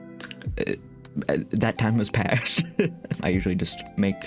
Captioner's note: laughing